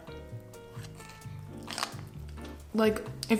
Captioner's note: chews food